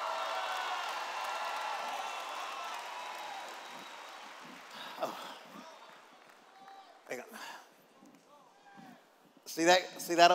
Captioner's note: applause